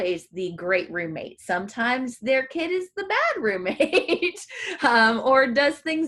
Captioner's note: laughs